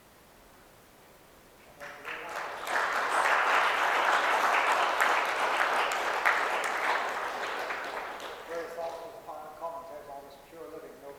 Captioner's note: audience applauses